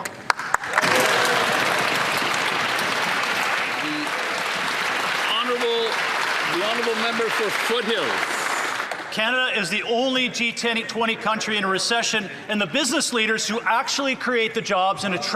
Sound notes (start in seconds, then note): 2.6 speaking Indigenous Language; 8.6 applause